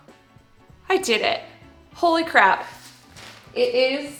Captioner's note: clanging